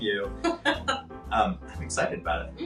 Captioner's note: laughing